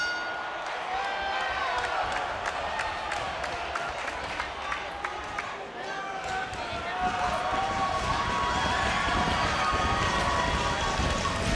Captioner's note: bell rings